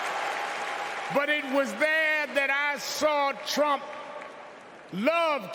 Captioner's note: cheers and applause